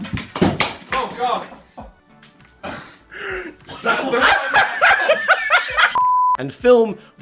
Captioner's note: laughing